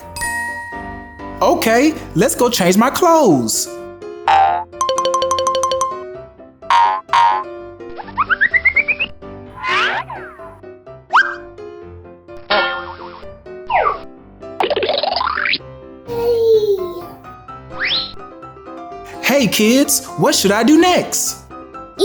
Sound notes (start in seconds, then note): 0.3 magical ting; 4.4 boinging; 5.2 alternating high-pitched piano keys; 6.7 boinging; 7.9 cartoony blipping; 14.7 cartoony blooping